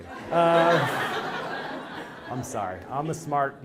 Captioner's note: laugh